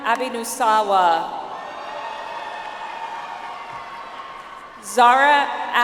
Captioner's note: audience applauds